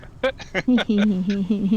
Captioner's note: laughing